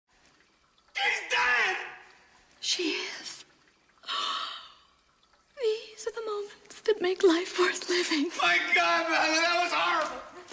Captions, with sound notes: She's dead! She is? *gasp* These are the moments that make life worth living. My God, Madeline, it was horrible!